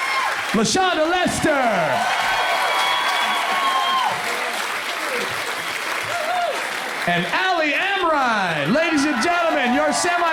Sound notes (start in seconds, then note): 0.2 crowd applauds; 2.9 crowd applauds